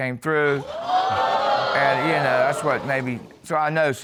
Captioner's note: crowd exclaims